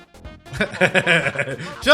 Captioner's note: laughs